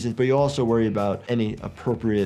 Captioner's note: none